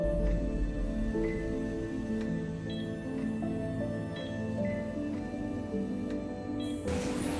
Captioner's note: heart monitor beeps